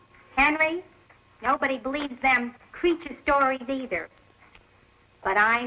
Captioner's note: none